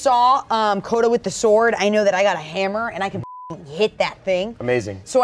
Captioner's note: beep